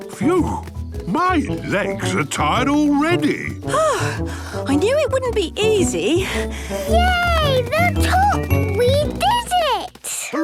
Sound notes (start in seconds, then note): 6.2 panting